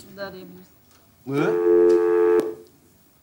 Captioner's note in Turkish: Telefon çalar